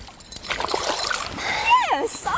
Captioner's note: splashing